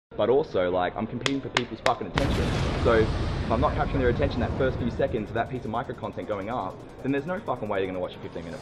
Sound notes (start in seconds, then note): 2.1 explosion